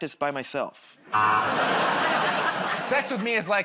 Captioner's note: laughter, buzzer